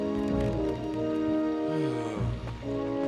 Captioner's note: sighs